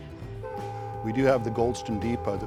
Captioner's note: train whistle